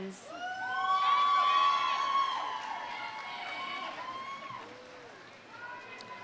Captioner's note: audience cheering; audience applauding